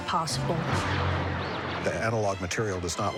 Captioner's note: zapping